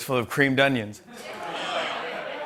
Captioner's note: laughter